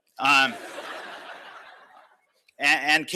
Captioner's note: laughter